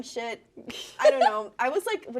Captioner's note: laughs